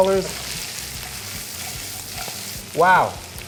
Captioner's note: wok sizzles